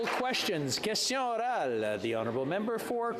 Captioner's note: applause